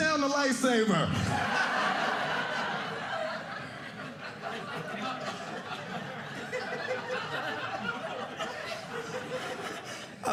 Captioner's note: audience laughing